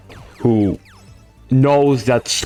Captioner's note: owl Noise